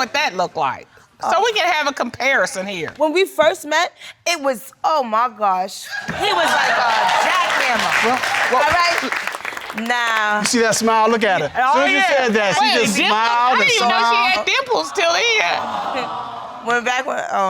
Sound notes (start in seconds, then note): 6.0 audience cheering